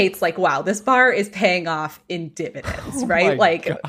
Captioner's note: laughing nervously